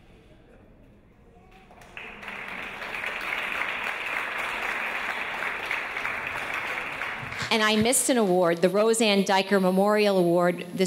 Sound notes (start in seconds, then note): 1.6 audience applause